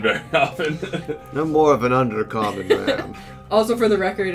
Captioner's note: struggling not to laugh; deeper voice